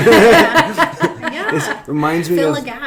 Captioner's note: laughing